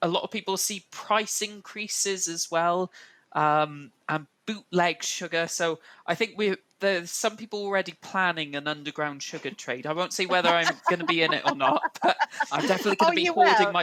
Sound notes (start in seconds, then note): 10.1 laughs